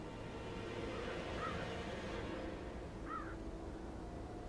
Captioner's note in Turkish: Karga sesi